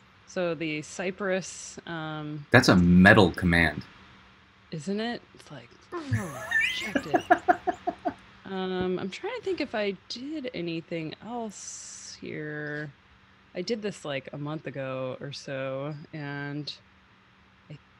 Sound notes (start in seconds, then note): 6.0 softy grunts; 7.7 laughing